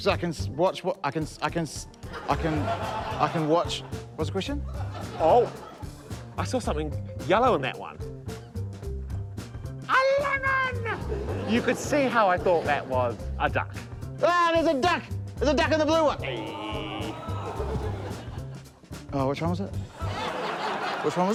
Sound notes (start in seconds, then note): 16.2 screams; 16.2 audience exclaims; 19.9 laughter